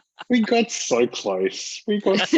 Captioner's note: laughter